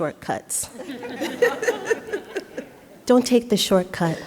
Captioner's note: all laughing